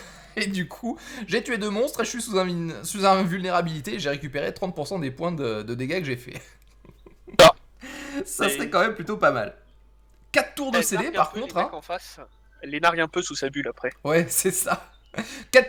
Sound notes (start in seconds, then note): 0.0 laught; 6.3 laught